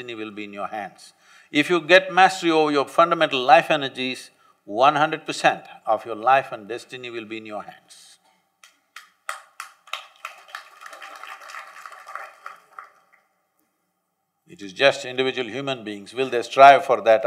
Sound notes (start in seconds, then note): 8.9 applause